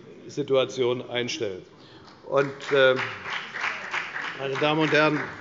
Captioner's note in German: Beifall bei der FDP